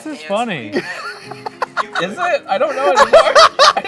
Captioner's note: laughing